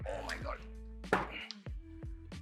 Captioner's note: thud